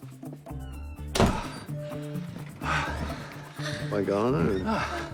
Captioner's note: panting, moaning